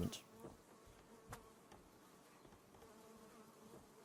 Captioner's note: bees hum